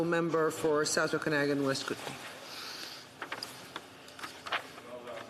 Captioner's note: speaking French